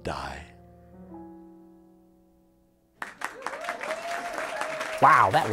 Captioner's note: applause